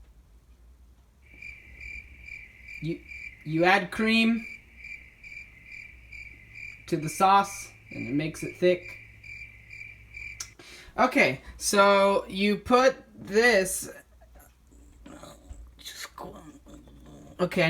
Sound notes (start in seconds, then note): 1.2 crickets; 10.3 smacks lips